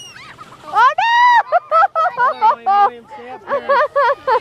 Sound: laughing

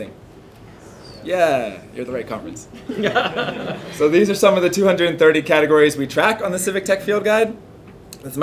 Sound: laughter

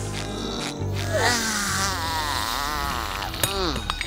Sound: sighing

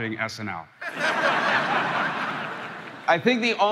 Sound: crowd laughing

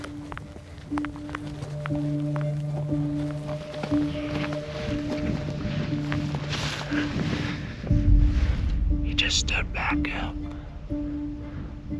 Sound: whispering

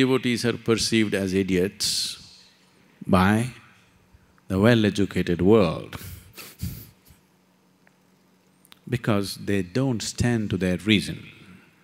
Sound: laughs

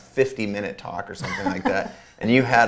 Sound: A.J. laughs

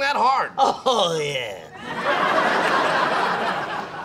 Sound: audience laughs

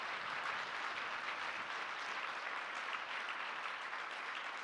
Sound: audience applauding

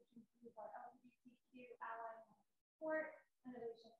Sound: voice muffling

